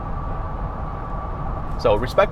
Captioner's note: car engine roaring